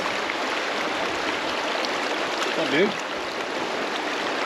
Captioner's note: water flowing